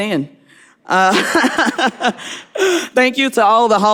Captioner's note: laughing